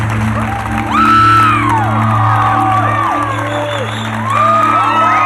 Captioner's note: audience cheering and applauding